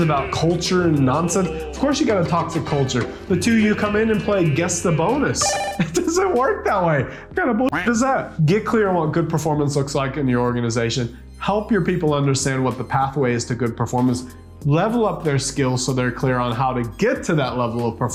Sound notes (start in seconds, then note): 5.3 beeper buzzing; 7.7 duck quacking